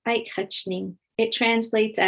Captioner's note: speaking in foreign language